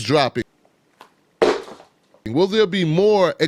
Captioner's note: shoe thuds